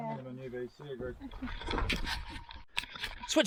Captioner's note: people Talking